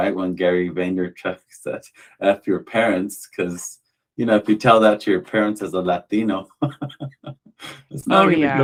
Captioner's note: laughter